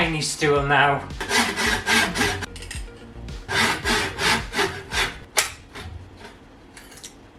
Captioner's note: sawing Sounds